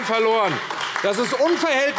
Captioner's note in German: Beifall AfD